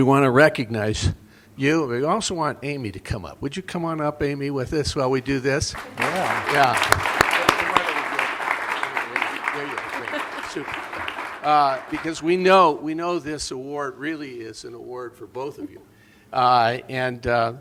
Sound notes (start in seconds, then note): 5.7 applause